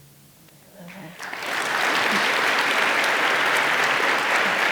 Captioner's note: audience applauding